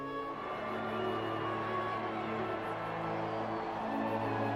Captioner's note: crowd cheering loudly